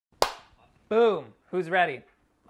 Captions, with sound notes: [clap] - Boom, who's ready?